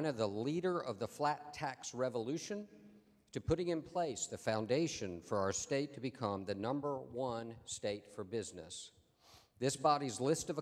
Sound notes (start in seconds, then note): none